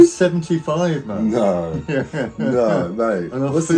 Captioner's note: laughs